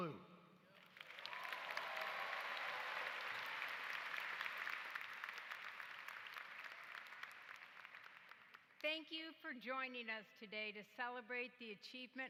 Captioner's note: applause